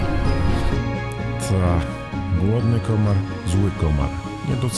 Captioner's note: mosquito